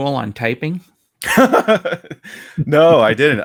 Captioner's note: laughs